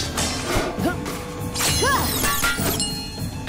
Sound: grunting

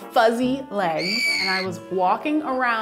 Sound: terrified screaming

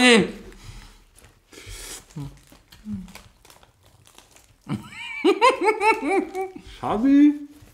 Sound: laughs

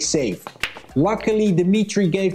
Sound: balls clanging

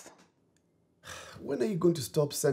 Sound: sighs

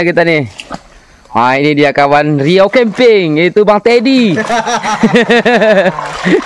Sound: laughs

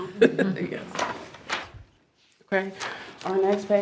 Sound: laughs

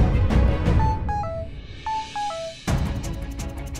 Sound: phone chiming

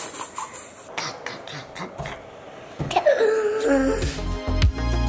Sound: laughs; gasps; energetic music

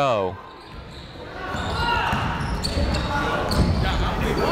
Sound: chatter

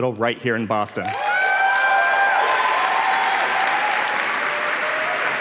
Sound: applause

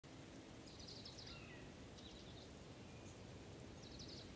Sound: birds chirping

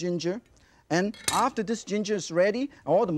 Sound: knife clinks

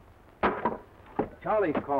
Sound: Ramon chuckles; knife clatters

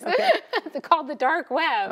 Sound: laughs

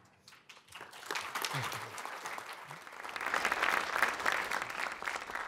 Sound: applause

